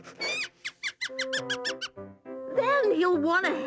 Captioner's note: mouse squeaking